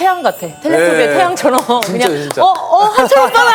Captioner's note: clap clap clap